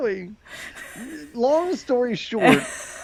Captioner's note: laughing